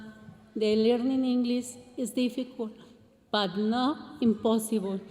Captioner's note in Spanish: continúa hablando en inglés